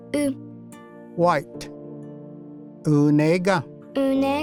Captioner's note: repeats in Cherokee